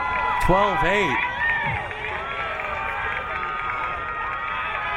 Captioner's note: crowd cheering